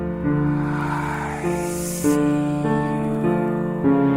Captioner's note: eerie dramatic music continues; sinister Voice; eerie dramatic music